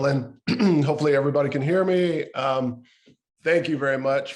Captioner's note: clears throat